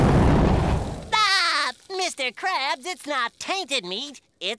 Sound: laughs

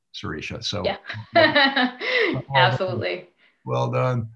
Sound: laughs

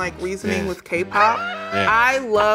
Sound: laughing

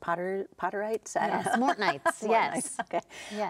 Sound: laughing

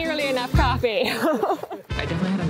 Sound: laughs

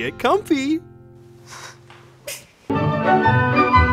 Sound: sobbing

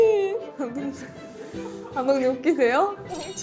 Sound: director's happy laughter

